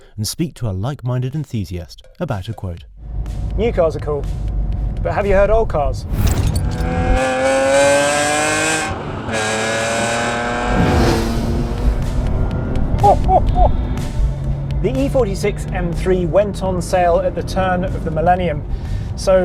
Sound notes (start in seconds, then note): 6.7 engine revving; 13.0 laughing